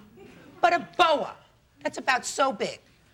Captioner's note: audience laughing